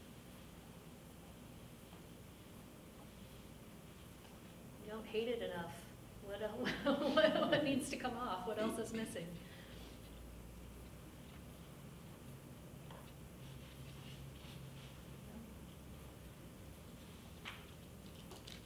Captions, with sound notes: - You don't hate it enough. (laughs) What needs to come off, what else is missing?